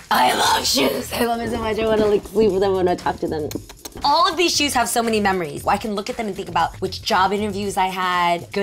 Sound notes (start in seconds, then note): 3.5 smooching